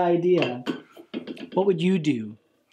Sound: tin can phone clanks

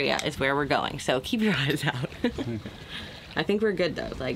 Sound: laughs

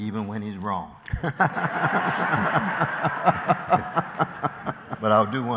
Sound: laughter

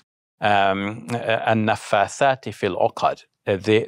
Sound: speaking in foreign language

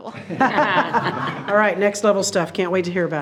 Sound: everyone laughs

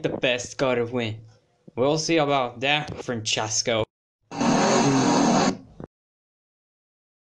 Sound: revs his engine

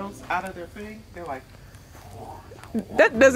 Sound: mimics arrows whooshing

